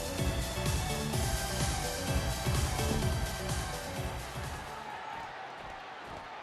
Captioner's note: energetic music continues; crowd yelling